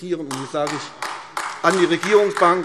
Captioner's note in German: Beifall AfD